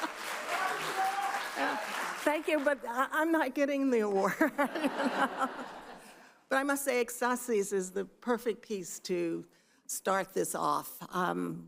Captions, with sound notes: Thank you, but I'm not getting the award (laughs), but I must say SSIS is the perfect piece to start this off.